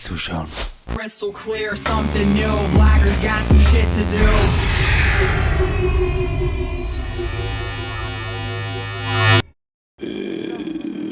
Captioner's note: engine noise; crash